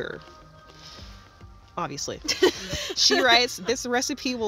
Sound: laughs

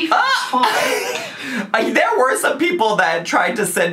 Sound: laughs

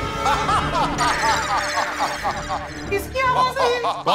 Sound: laughing

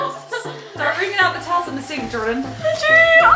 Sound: female voice

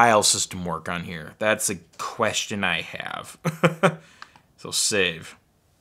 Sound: laughs

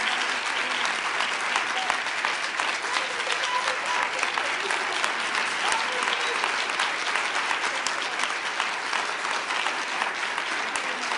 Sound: applause

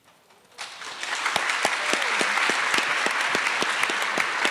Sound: attendees applauding

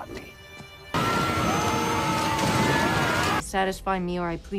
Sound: screaming

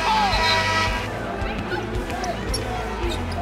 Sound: buzzer

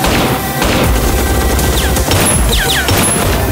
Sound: gunshot; rapid gunfire

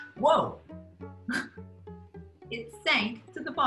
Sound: chuckles

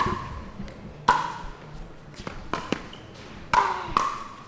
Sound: ball bouncing

